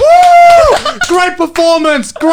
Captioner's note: applauding